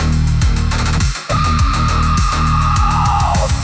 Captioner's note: digital screaming